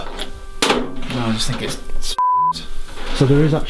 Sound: beep

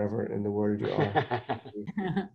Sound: laughs

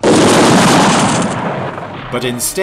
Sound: gun fires

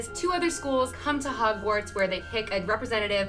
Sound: none

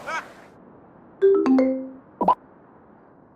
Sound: phone notification

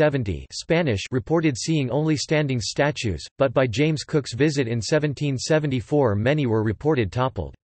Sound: Spanish

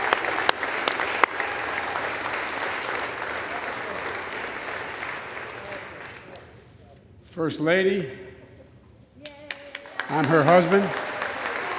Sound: applause

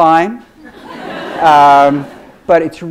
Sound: audience laughs

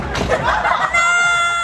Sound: laughter

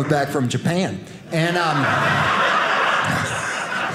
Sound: audience laughing

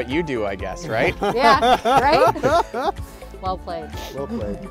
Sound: laughs

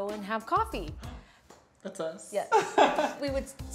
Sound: laughs

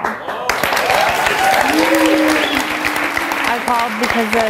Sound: audience applauds

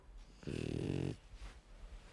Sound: Helga snores

